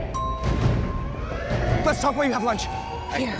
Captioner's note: alarm blares; elevator dings